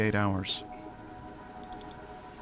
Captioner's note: mouse clicking